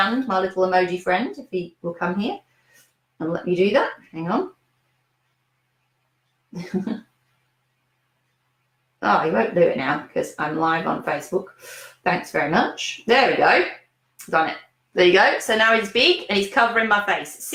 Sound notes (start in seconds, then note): 6.6 chuckles